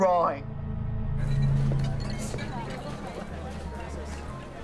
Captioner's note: background chatter